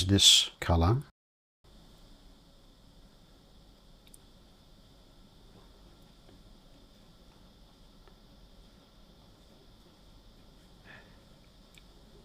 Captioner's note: silence